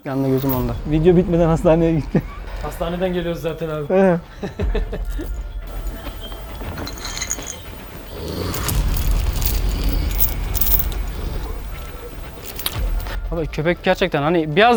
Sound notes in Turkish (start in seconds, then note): 4.4 Gülüşmeler; 8.4 Hırlama sesi ve tansiyon müzik